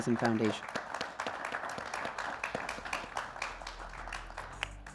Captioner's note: audience applauding